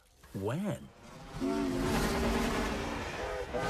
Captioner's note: toot-Toot!